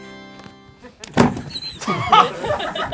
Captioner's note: laughing; thuds